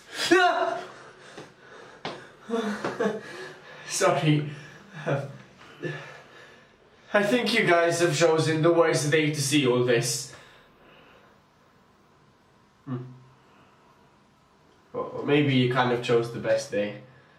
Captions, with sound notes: Aaah! [NERVOUS CHUCKLE] Sorry... Um... I think you guys have chosen the worse day to see all this! Hmm... Or... or maybe you kinda chose the best day